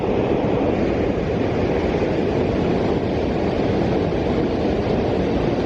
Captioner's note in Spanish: sonido ambiente de la cascada